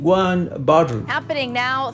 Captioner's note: soundbite of archived recording